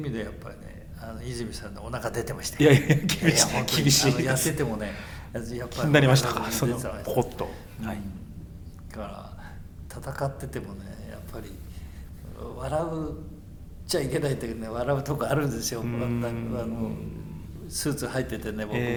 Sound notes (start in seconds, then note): 2.4 laughs